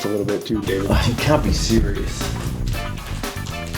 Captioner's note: scoffs; groovy music